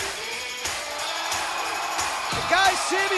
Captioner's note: cheers & applause